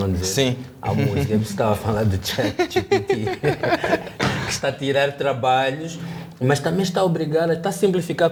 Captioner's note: laughter